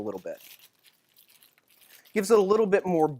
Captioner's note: more crackling